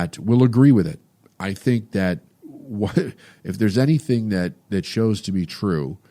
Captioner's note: laughs